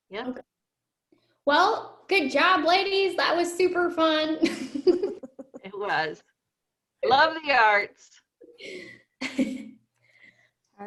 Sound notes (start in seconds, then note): 4.8 laughs; 9.2 laughs